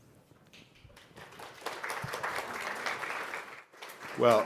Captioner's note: applause